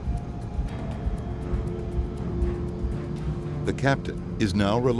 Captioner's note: airplane engine roaring; sinister music